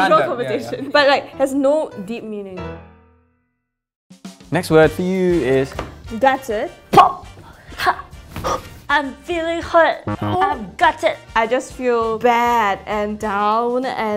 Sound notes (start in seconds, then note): 8.0 gasps; 10.0 buzzer buzzes